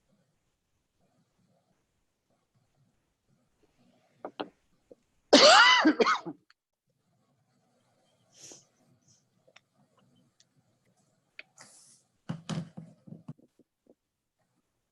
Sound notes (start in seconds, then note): 5.3 coughs